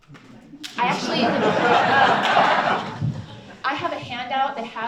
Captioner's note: audience chuckles and laughs